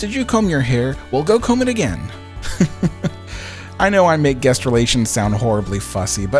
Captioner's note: chuckle